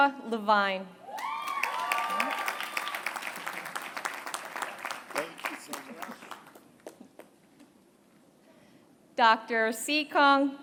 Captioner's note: applause